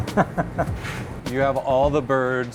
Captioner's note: laughs